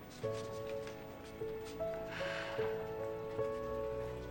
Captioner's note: sighing